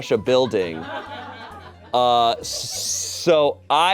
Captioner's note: audience laughing